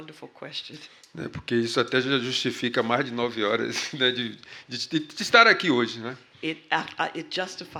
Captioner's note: speaking portuguese